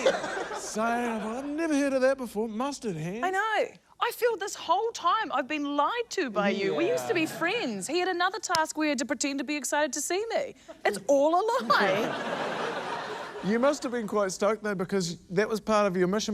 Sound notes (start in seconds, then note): 11.6 laughter